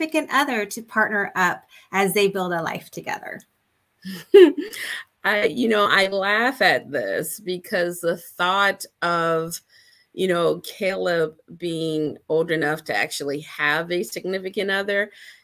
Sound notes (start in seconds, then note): 4.1 laughs